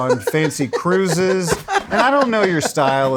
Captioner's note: laughing